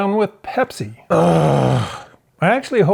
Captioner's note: groans